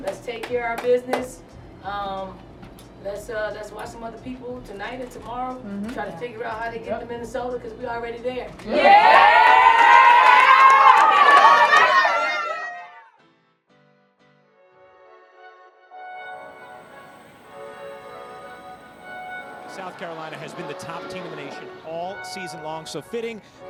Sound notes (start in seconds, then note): 11.2 cheering